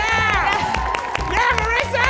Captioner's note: audience cheering